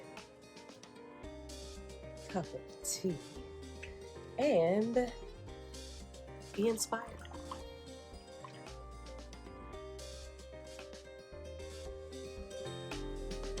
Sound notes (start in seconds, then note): 6.8 tea trickles; 9.9 light contemporary music